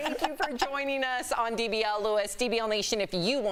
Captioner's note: laughter